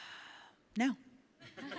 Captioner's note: laughs; Ilana sighs